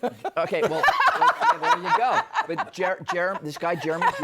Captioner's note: laughing